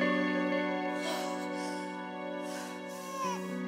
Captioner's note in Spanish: exhala; llanto de la bebé